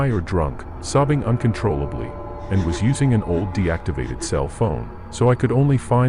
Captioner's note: heavy emphasis